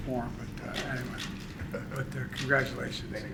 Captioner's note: laughter